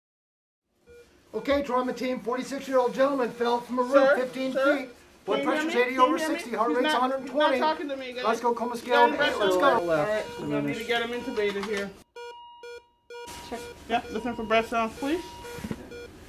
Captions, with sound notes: [Monitor beeping] Okay, drama team, a 46-year-old gentleman fell from a roof, 15 feet . . . Sir, sir? Can you hear me? He's not talking to me Blood pressure's 80 over 60, heart rate's 120. Let's go. I'm going to get him intubated, here. Check for breath sounds, please.